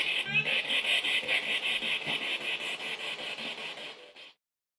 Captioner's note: radio noise from the spirit box